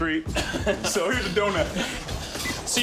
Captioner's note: laughs